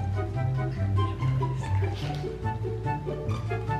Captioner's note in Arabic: همس